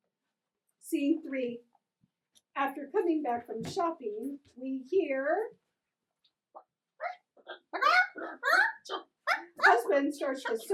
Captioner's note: chirping